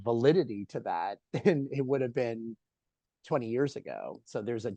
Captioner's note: laughs